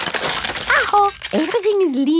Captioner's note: house creaking